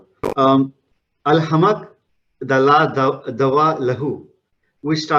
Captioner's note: speaking in Arabic